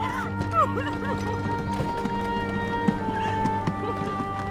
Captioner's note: crying